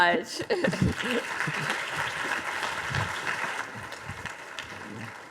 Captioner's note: audience applauding